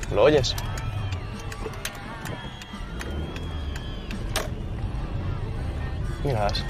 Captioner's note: fans cheering